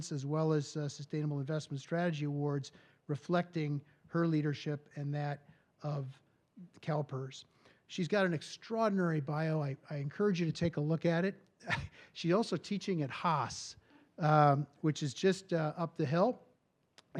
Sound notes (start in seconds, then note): 11.6 chuckles